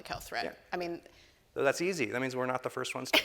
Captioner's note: laughing